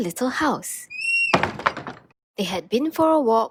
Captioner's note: door swings open